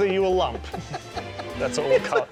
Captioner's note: laughs